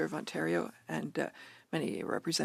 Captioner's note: speaking French